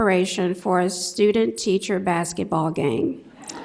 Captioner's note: laughter